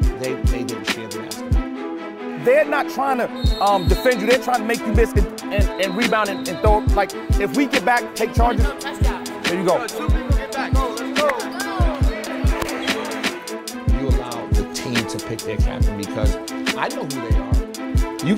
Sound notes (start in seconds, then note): 10.2 dramatic orchestral music; 10.2 overlapping chattering